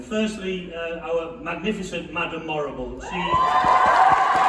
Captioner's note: cheering